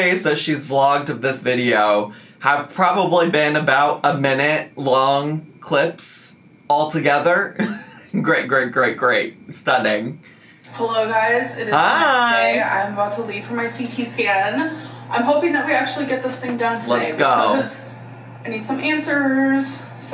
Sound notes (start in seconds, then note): 7.6 laughing